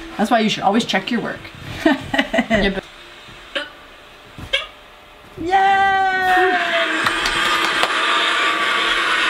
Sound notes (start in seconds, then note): 1.8 laugh; 6.9 clap